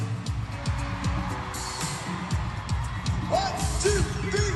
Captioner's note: audience cheering